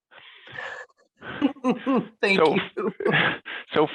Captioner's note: laughs